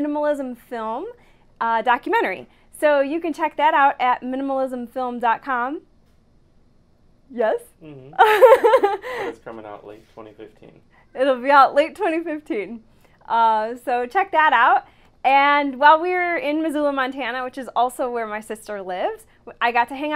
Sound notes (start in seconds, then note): 8.1 laughs